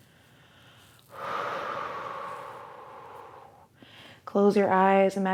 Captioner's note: exhales